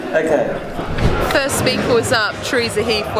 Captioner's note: laughing; air whooshing